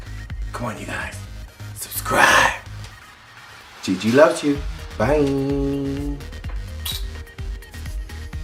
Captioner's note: Smooch